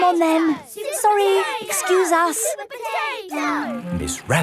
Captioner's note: children chanting